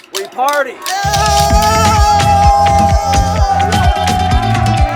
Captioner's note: people chanting; upbeat music